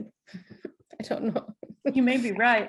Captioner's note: laughs